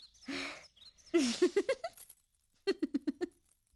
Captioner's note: chuckling